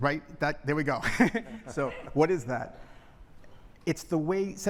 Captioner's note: laughter